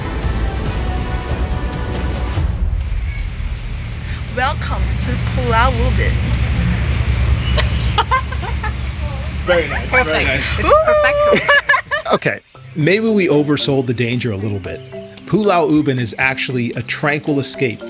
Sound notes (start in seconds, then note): 2.5 birds chirping; 7.5 laughs